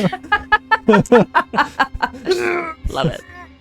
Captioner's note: laughing